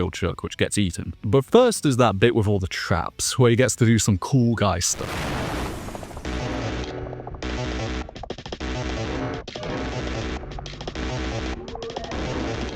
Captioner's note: explosions